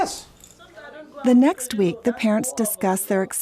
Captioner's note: voiceover